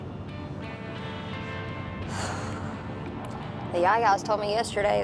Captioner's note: exhales